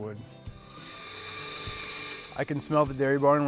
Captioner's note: saw whining